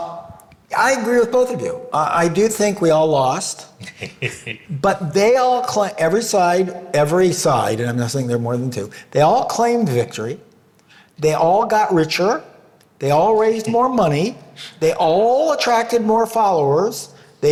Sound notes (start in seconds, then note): 3.7 laughing